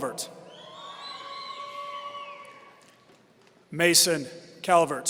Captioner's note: audience cheering